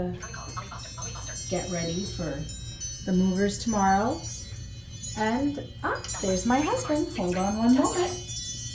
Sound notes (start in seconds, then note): 4.8 phone rings